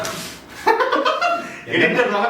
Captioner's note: man laughs